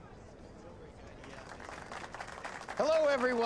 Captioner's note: audience applauding